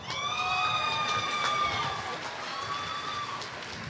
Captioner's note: applause